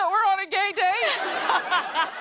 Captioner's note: laughter